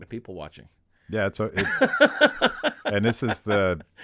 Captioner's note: Chad laughing